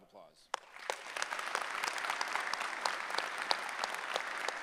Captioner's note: applause